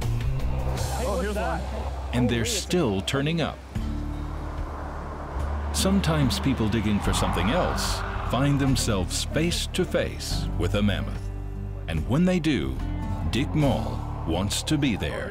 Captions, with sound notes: [excited chatter] And they're still turning up. Sometimes people digging for something else find themselves face to face with a mammoth. And when they do, Dick Mol wants to be there.